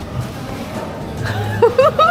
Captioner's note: scratching